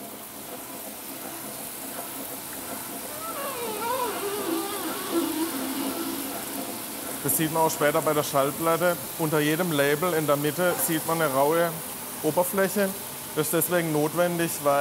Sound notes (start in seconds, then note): 3.0 whirring, squeaking